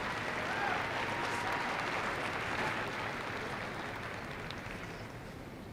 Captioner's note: applause